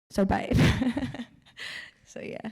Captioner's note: laughs